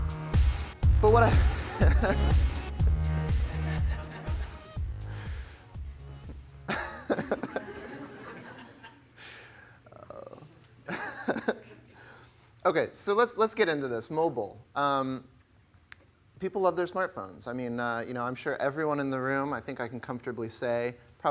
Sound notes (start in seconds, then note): 0.0 techno music playing; 6.7 laughter